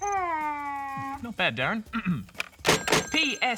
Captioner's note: phone bleeps